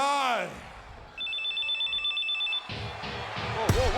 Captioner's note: phone ringing; upbeat music